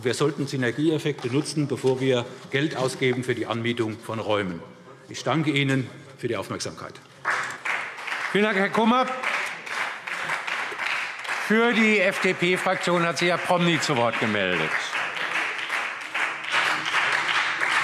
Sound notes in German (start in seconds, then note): 7.9 Beifall SPD